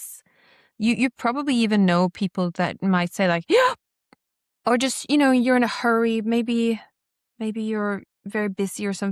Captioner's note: gasps